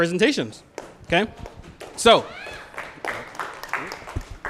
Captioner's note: applause